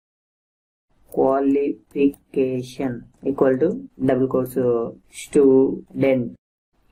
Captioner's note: typing